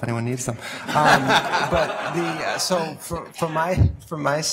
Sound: audience laughs

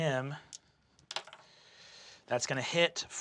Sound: dice clack

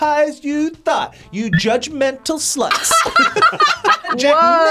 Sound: both laugh

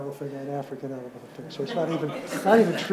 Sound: audience laughs

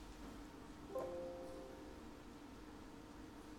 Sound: computer chimes

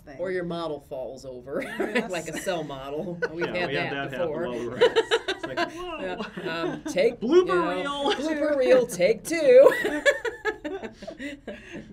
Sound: laughs

